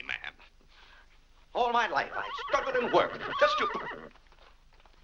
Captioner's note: horse whinnying